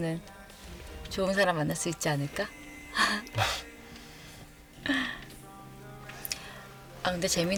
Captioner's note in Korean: 콧방귀